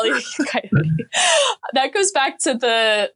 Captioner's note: laughing